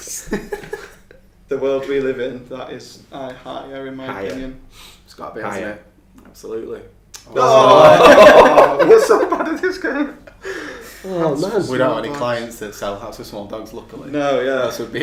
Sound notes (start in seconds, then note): 1.8 laughing